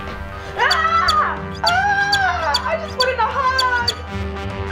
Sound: chirps

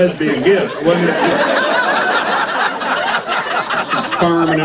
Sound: laughter

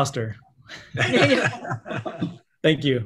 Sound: all laughing

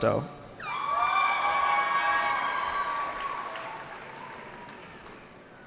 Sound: cheering

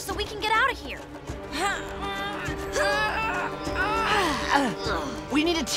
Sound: grunting

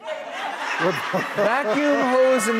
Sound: audience laughing

